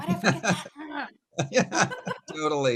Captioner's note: gasps